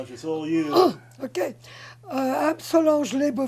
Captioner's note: clears throat